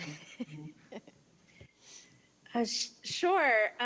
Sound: chuckles

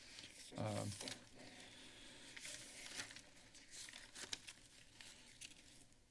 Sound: papers flipping

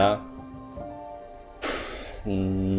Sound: sighs

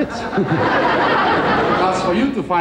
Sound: crowd laughs

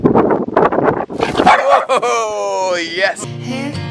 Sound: dog barking

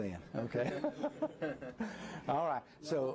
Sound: laughter

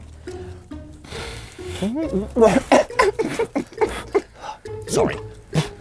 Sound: zb coughs

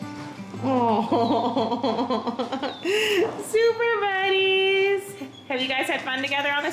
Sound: laughing

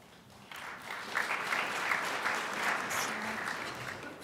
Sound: crowd applauds

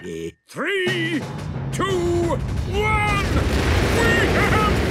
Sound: rockets igniting

